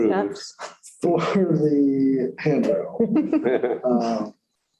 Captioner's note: laughter